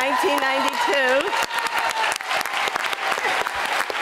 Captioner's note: applause